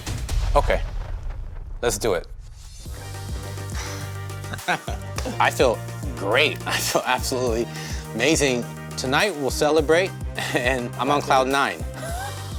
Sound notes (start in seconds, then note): 0.3 suspenseful music; 8.3 both laughing